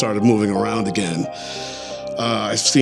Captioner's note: inhales